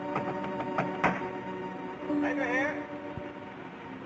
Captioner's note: knocking